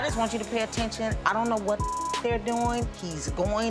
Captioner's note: beep